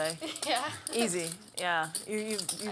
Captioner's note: laugh